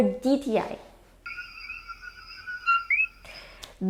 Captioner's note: coqui sound